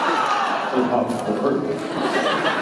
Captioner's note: laughing